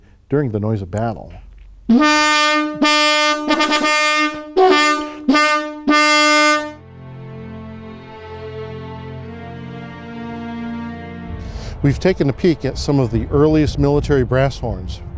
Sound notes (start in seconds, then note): 1.9 horn blowing; 5.9 soft music